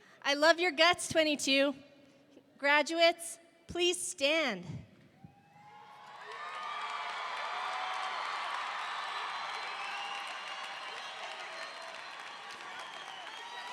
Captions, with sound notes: I love your guts '22. Graduates, please stand. (audience cheering) (audience applauding)